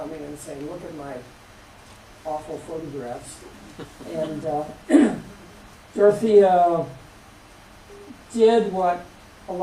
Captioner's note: laughter